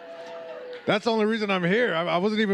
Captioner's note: audience cheering